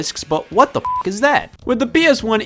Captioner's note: beep